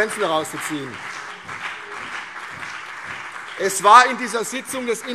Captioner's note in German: Beifall CDU und BÜNDNIS 90/DIE GRÜNEN